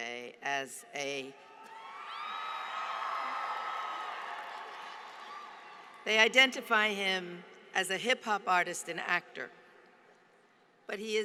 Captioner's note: applause